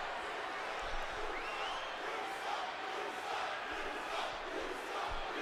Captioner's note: audience chanting